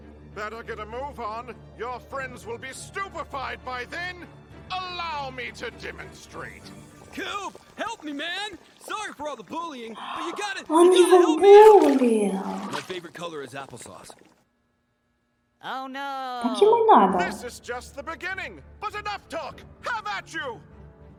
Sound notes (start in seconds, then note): 9.9 Бульканье; 9.9 плеск жидкости